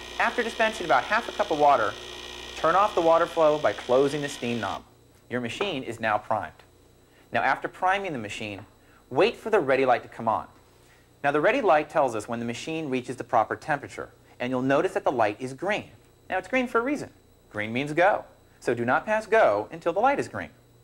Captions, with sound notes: After dispensing about half a cup of water, turn off the water flow by closing the steam knob. [machine noise stops] Your machine is now primed. Now, after priming the machine, wait for the Ready light to come on. Now, the Ready light tells us when the machine has reached the proper temperature. And you'll notice that the light is green. Now, it's green for a reason -- green means go. So do not pass "Go" until the light is green.